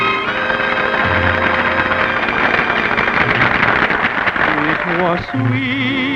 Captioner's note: applause